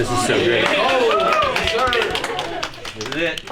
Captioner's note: students applauding